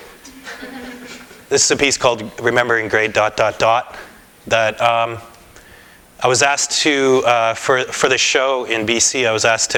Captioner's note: laughter